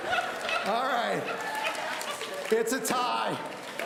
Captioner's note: laughing; audience applauding